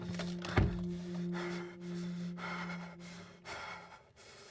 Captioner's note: Mark breathing